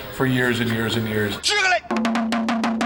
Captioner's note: non-english speech